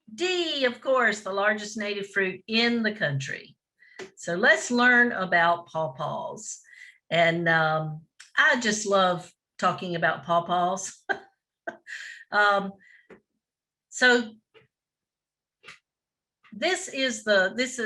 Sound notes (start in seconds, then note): 11.1 chuckles